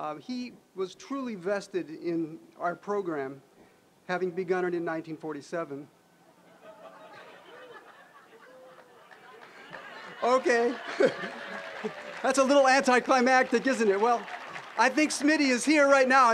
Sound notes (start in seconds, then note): 6.4 audience laughing; 10.8 applause, laughing